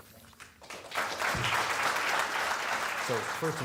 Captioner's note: audience clapping